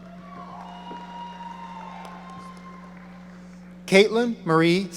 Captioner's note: audience applauding